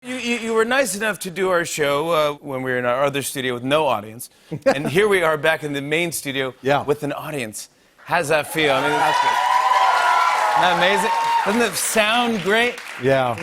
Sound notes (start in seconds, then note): 8.4 cheers and applause